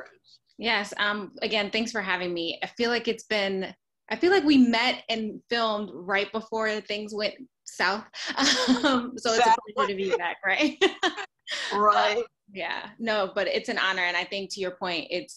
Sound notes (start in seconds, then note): 9.3 laughs